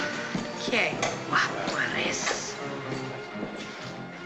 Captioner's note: in spanish